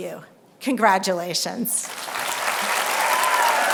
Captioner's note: applause